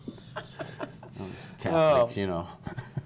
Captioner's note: laughter